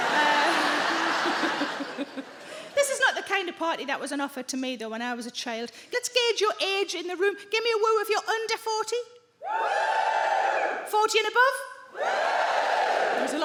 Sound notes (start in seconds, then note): 0.0 Sarah imitates horn honking; 0.0 audience laughing; 9.4 audience woos; 11.9 audience woos